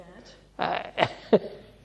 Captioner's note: laughs